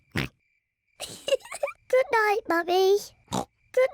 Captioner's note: snickers and oinks; giggles; oinks